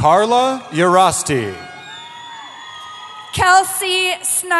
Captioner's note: cheering